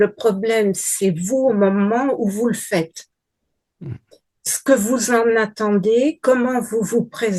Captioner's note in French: raclement de gorge